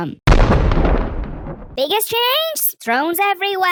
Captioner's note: thunder